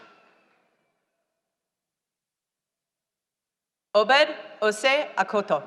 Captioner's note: none